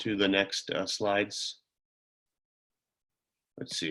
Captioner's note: silence